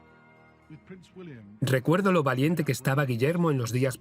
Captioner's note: voiceover